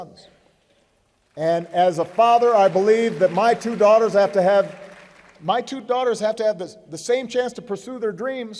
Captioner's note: applause